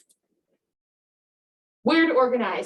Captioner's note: mouse clicking